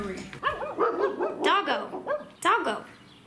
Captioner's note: barking